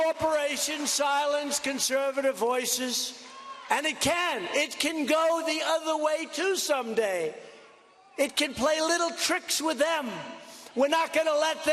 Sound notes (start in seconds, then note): 0.0 cheers and applause